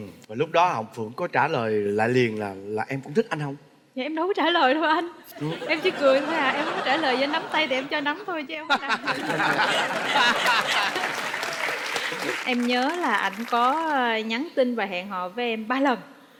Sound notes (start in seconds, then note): 8.9 laughing; 9.2 applause